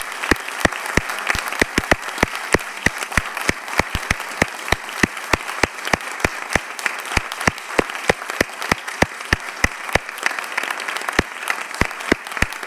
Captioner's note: applause